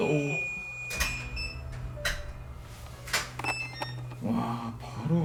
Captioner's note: the sound of closing the door